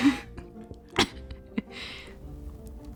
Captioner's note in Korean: 쿨럭